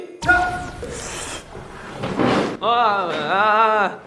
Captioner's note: slurp